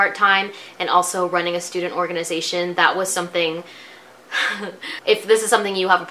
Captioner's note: laughs